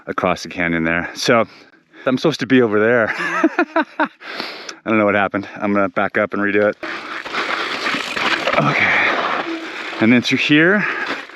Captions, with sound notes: across the canyon there. So I'm supposed to be over there. (biker laughs) I don't know what happened, I'm gonna back up and redo it. Okay, and then through here.